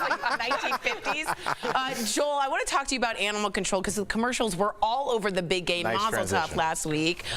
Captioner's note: laughter